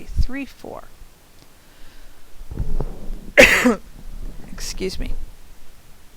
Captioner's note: cough